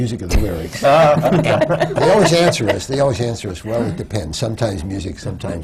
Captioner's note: laughter from the panel